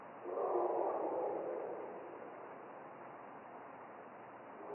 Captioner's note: creature barking